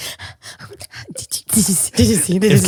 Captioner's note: panting